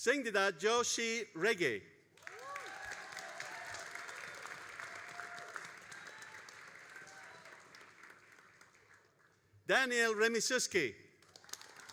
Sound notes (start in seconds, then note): 2.1 all applauding and cheering